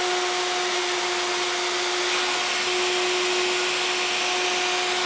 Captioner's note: machine continues whirring